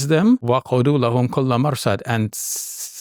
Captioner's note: speaking in Arabic